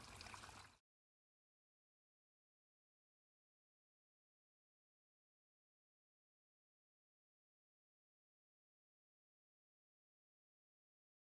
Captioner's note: silence